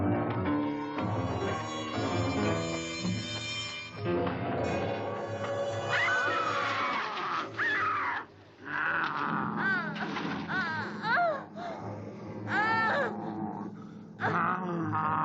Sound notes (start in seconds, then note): 5.9 Mary screams; 6.0 werewolf growls; 12.4 Mary groans